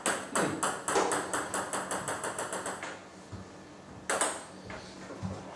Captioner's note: balls ping pong hitting continues